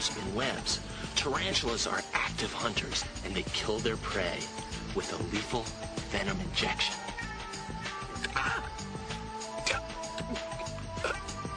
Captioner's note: exclaims, gags and chokes